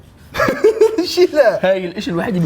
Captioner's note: laughs